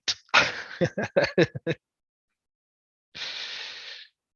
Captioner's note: laughs